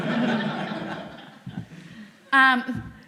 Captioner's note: laughter